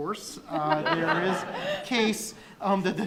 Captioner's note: all laughing